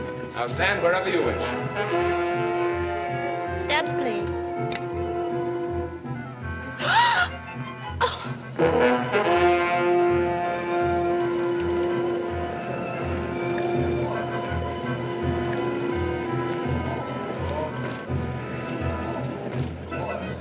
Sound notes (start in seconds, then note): 6.8 gasps; 9.7 crowd Murmuring